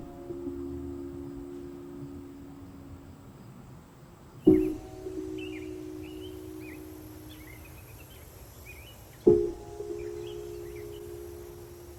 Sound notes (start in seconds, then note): 0.0 introspective music; 6.4 birds chirping